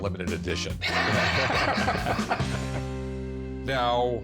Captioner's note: both laughing